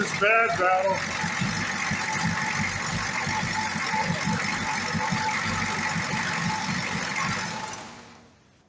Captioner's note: engine idles & stops